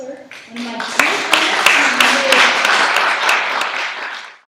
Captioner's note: applause